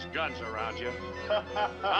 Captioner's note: laughing